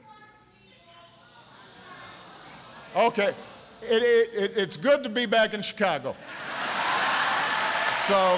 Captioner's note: laughter and applause